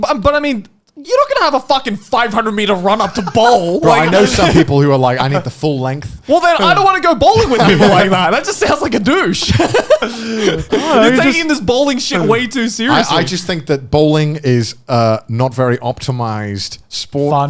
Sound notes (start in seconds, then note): 9.8 all laughing